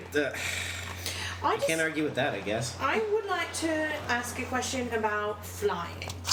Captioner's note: sigh